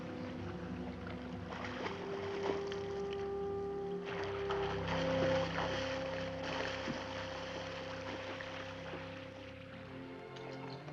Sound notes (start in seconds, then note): 0.0 water splashing below